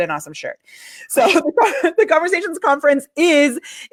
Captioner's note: laughs